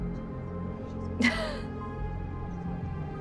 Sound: chuckles

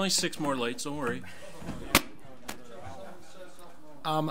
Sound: overlapping chattering

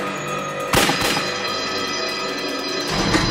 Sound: gunshots; alarm Ringing

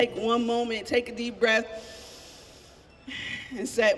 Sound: inhaling deeply

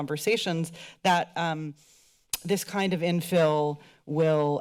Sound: click tongue

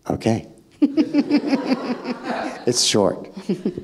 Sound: audience laughing

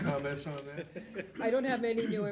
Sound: laughter

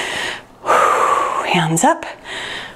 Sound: exhales

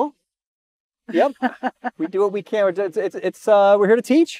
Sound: laughs

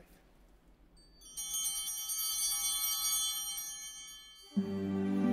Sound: bell ringing

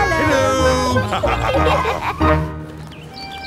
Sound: laughter

